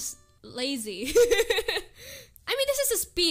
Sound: giggles

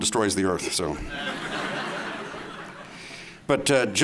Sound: laughter

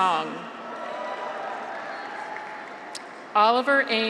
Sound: graduates cheer; audience applauds

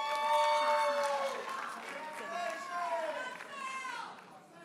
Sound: audience cheers and applauds

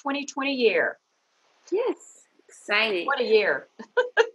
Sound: laughing

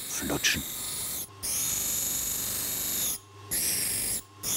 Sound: grinding noises

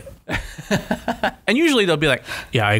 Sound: laughter

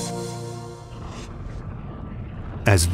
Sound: eruptions rumbling

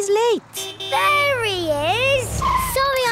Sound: honking

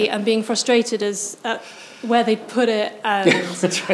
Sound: chuckles

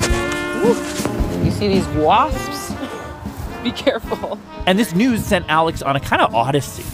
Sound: laughs

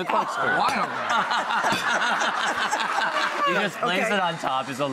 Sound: audience laughs

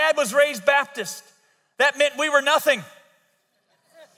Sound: audience laughs

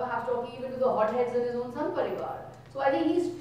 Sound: speaking in foreign language

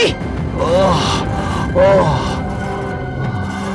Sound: groaning in pain

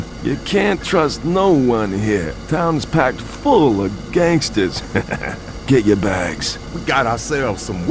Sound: chuckles

